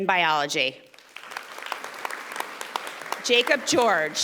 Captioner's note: audience applauding